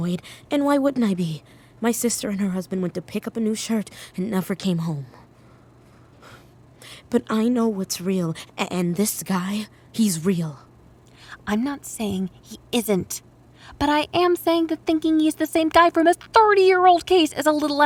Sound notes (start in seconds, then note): 11.5 whispered, starting to get worked up